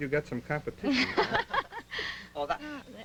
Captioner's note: laughter